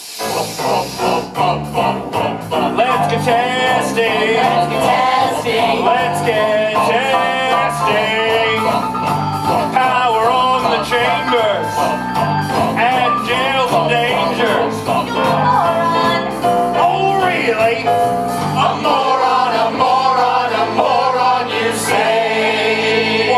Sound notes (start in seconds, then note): 4.3 echo